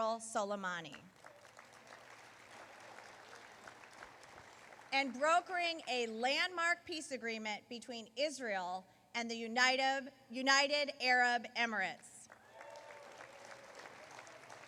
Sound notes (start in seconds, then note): 6.3 applause